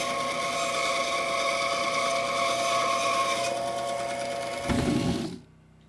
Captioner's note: saw cutting wood